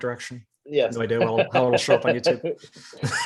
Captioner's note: both laughing